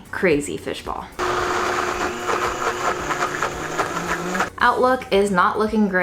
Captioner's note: blender whirring